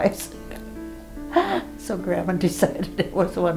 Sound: she laughs

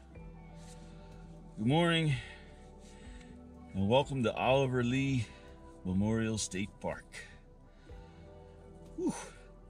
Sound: soft music; sleeping bag rustling

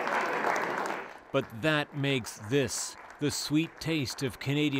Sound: applause

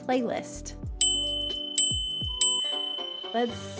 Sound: bells chiming

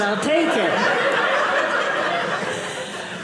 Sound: audience laughing

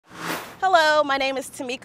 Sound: sound Effects

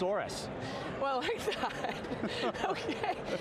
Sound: laughs

